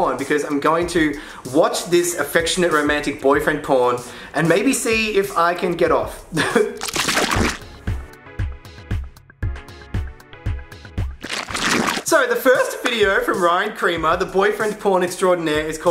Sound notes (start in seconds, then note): 6.4 laughs; 6.7 gentle music; 6.8 liquid sloshing; 11.2 liquid sloshing